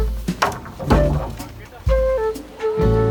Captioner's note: voices in the background